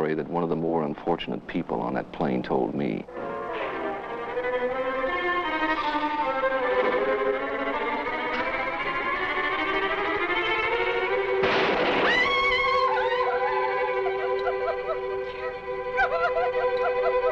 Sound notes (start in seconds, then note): 3.2 ominous music; 11.4 gun fires; 12.0 Mrs. Wilson screams; 12.8 Mrs. Wilson sobbing